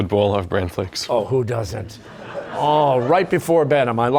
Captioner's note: laughter